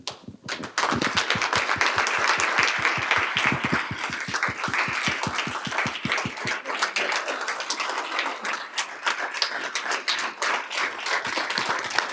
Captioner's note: applause